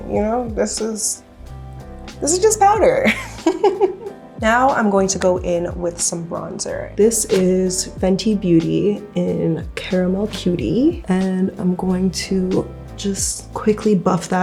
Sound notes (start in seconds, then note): 3.1 laughing